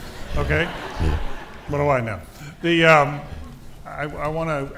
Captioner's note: audience laughing